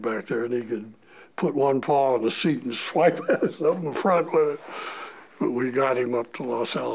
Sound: chuckle

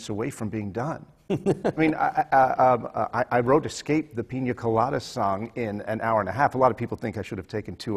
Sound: laughs

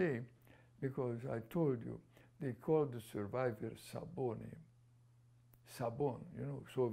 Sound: non-english

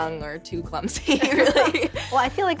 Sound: both laughing

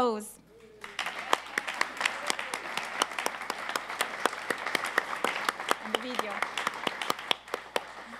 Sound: applause

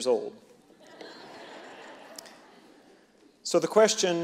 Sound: audience laughing

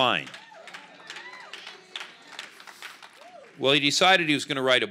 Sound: congregation cheers

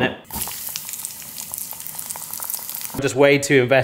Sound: grease sizzling

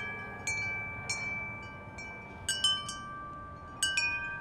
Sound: wind chimes chiming

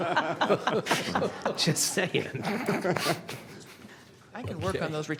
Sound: laughter

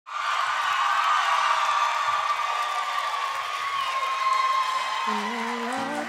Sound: applause

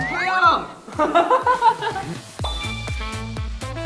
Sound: kekekekeke

